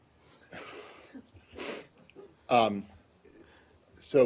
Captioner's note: laughter